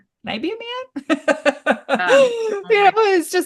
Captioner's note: laughs